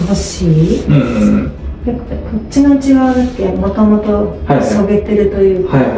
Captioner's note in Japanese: 咳払い